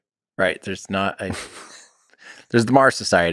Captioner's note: Lex laughs